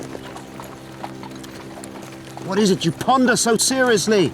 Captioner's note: chuckles